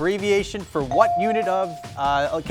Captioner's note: buzzer chimes